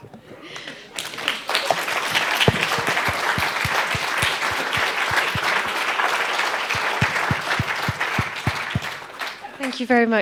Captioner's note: applause